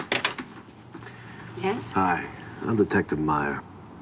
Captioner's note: door unlocks; sighs